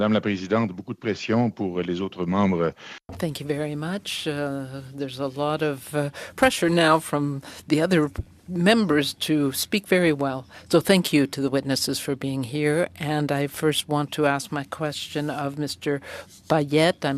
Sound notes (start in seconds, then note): 6.5 speaking french